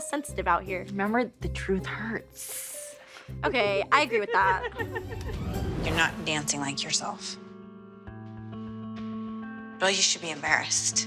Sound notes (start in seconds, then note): 4.2 laughing